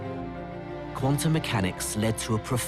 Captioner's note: voiceover